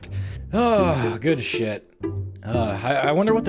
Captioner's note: sighs